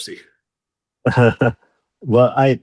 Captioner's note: laughing